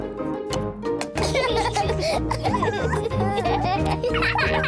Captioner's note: both laugh